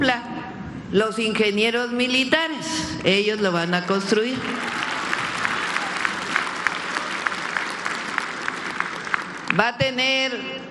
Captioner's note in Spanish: aplausos